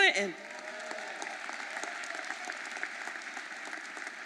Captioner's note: audience applauding